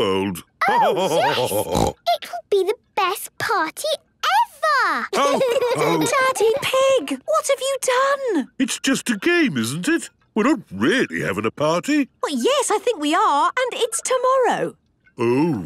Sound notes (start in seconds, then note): 0.2 laughter and snorting; 5.1 laughter